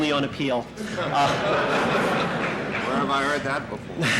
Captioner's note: laughter in the courtroom